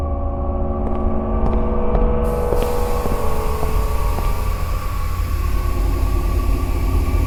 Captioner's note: brooding music continues; shoes clacking